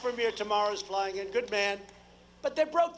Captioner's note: applause